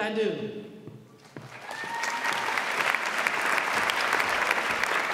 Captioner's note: audience applauds